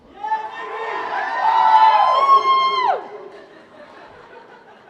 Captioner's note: cheers and applause